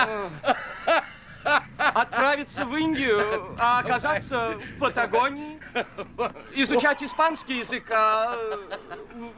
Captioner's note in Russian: смех